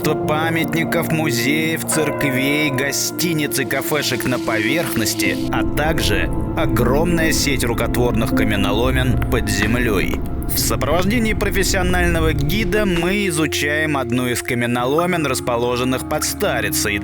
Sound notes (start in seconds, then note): none